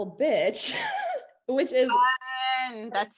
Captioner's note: laughs